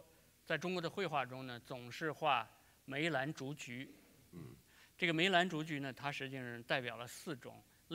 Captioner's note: speaking in Chinese